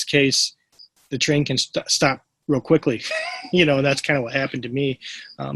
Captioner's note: laughs